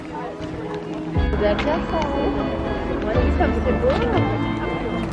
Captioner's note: people chattering